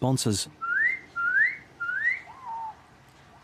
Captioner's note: whistles; bird squeaks